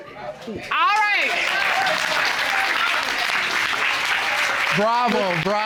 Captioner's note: audience applauding